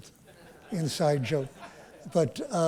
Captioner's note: laughter